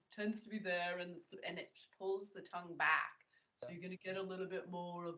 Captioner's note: more twangy